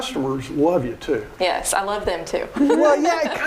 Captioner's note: laughing